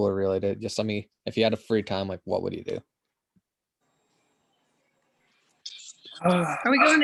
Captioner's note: sighs